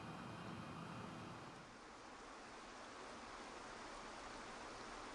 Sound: water falling

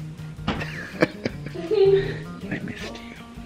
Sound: laughs

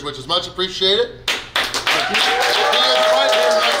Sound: people cheer and clap

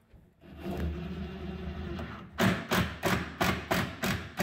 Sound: drill whirring

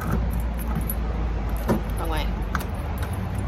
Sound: key clunks in lock

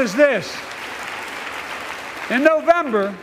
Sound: applause

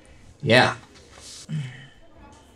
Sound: clears throat

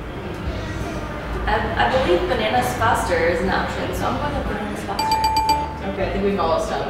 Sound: correct answer bell

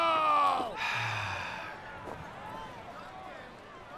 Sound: sighing

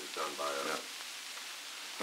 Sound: Murrow, mumbling

